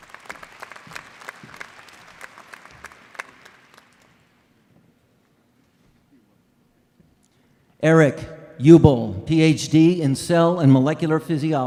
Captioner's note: applause